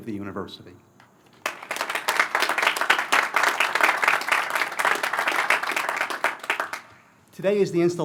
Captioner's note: applause